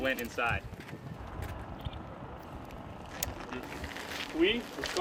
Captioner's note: car engine idling